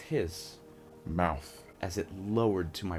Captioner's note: deep voice effect